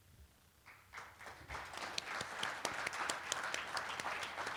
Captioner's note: applause